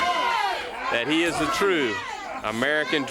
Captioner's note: crowd chatter